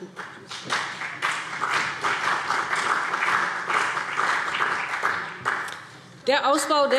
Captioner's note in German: Beifall BÜNDNIS 90/DIE GRÜNEN und CDU